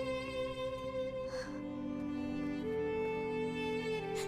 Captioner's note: Fatima crying